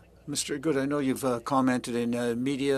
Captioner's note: speaking French